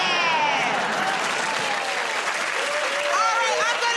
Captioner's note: cheers and applause